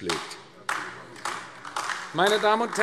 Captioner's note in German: Beifall AfD